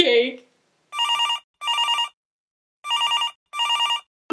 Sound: phone ringing

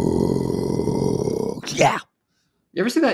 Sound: speaking normally

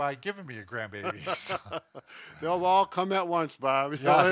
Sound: laughs

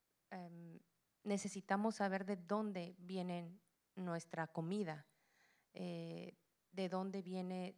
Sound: Spanish language

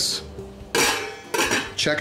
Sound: metallic knocking

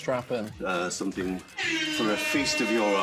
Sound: buzzer blares

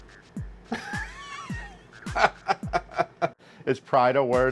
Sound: laughing

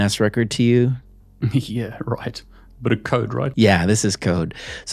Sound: chuckles

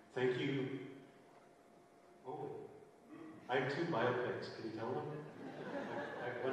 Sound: laughter

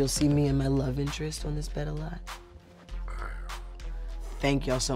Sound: purrs

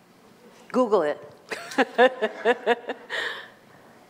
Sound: laughs

